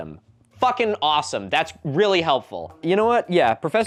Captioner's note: sarcastically